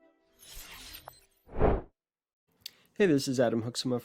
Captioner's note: logo whooshing